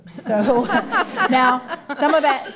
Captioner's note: laughter